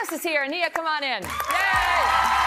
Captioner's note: applause